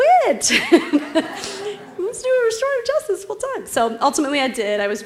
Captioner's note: laugh